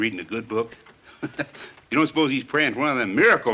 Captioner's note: laughs